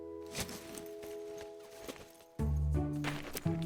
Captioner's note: tent thudding